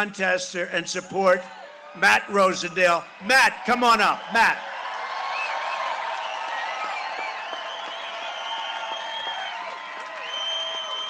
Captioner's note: cheering and applause